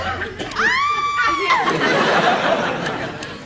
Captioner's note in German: Frau schreit